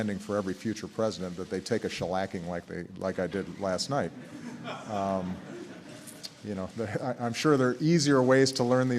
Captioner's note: laughter